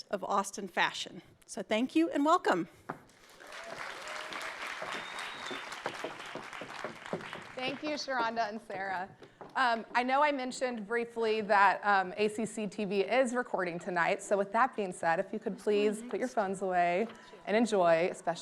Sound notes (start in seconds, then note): 3.1 audience clapping